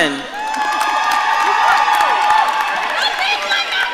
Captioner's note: audience cheering